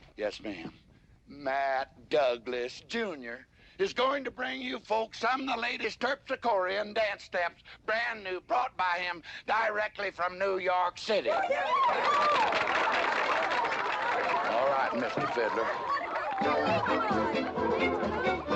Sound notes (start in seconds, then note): 11.6 audience applauding excitedly; 15.0 lively dance music